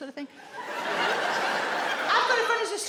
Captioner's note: audience laughs